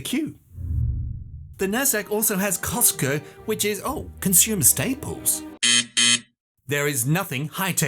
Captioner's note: buzzer